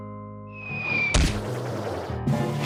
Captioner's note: whistling